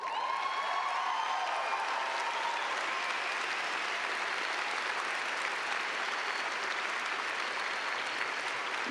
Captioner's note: cheers and clapping